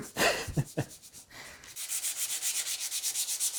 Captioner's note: laughing